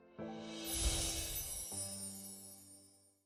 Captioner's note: bells twinkle again